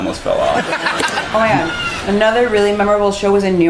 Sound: audience cheering

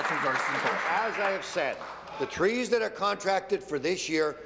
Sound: applause

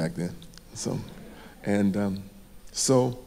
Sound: audience laughing

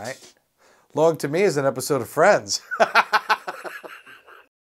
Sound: laughs

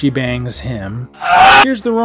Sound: man screams incredbibly loudly

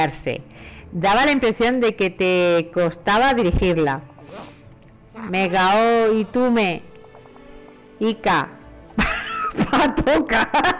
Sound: laughs

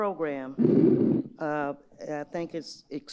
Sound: microphone feedback

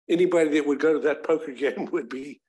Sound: chuckles

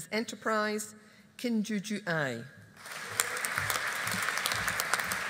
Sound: audience applauding

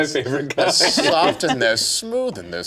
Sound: group laughing

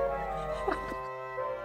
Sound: laughs

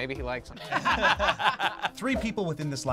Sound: group laughs

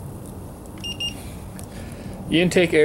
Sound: thermometer beeps

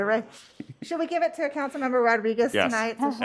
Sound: laughter

